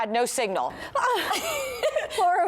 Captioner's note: laughter